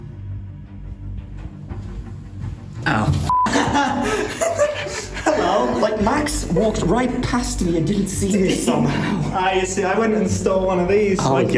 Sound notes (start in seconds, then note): 3.4 laughs